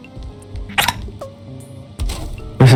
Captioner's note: kiss